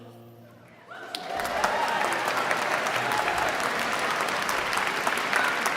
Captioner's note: audience cheering and applauding